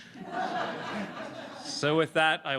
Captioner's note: laughter